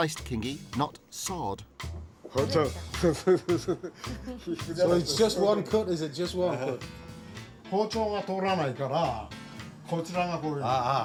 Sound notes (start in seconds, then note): 2.9 laughs; 3.4 speaks Japanese; 8.7 speaking Japanese